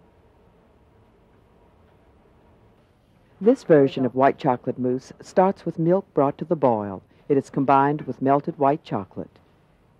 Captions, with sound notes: - [Voiceover] This version of white chocolate mousse starts with milk brought to the boil, and it's combined with melted white chocolate.